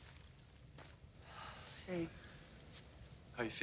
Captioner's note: sighs